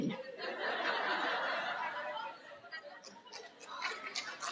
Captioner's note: crowd laughs